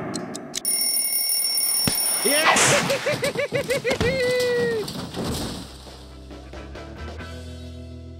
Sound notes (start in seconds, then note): 0.6 bell rings; 2.3 laughs